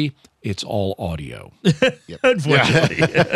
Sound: laughter

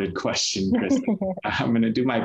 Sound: chuckles

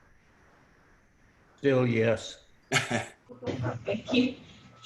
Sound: laughter

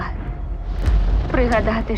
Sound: thunder crashes

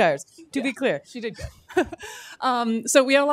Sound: chuckles

